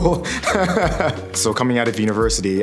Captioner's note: laughing